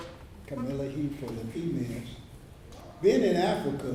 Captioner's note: speaks in foreign language